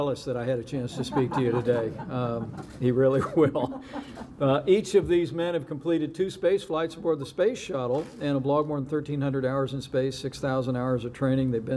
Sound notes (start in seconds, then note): 0.8 laughter